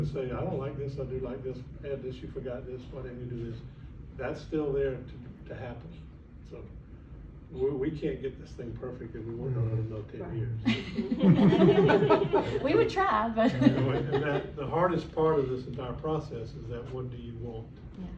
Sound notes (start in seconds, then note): 10.6 laughter